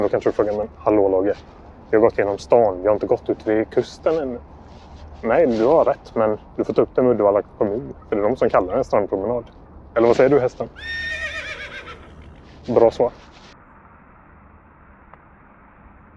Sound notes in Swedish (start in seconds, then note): 10.7 Gnäggande häst